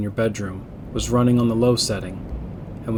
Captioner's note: ceiling fan sound